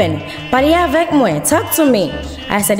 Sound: foreign language

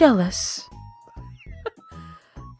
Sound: barely audible laugh

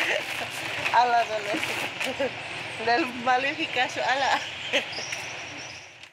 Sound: speaking in foreign language

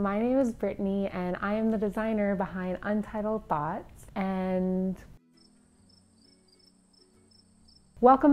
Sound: crickets Chirping

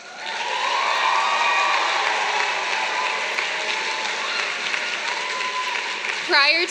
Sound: applause

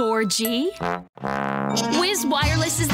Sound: fail Tuba Sound

